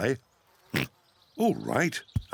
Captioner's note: oinks